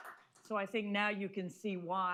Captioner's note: applause